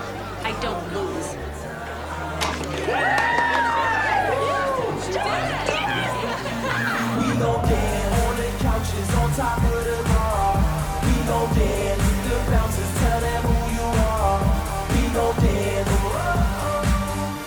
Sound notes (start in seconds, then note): 2.1 cheering